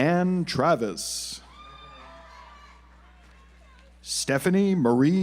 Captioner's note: audience applauds